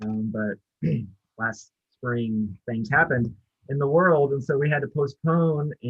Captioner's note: clears throat